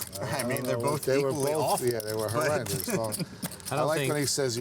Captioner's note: laughs